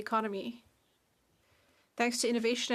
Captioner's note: speaking French